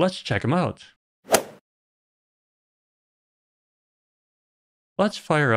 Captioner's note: golf ball hit sound